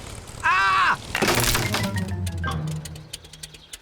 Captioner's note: crunching